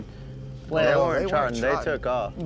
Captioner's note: overlapping chatter